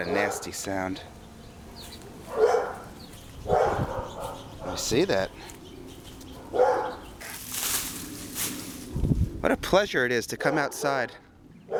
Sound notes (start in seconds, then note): 2.2 two dogs barking; 7.7 growling